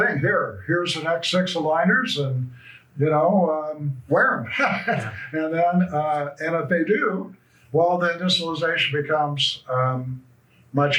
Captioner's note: laughs